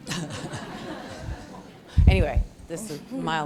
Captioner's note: laughter